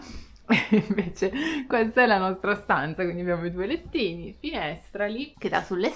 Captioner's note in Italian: risate